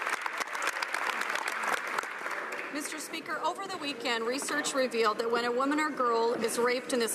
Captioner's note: some Applause